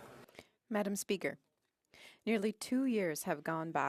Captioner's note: speaking French